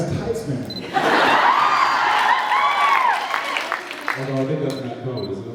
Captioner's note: laughs, cheers, applauds